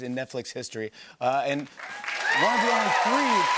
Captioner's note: cheers and applause